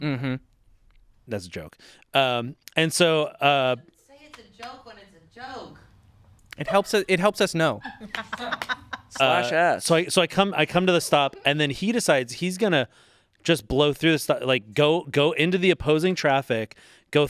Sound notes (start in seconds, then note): 7.9 crew laughing